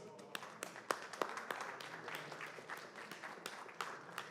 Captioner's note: applause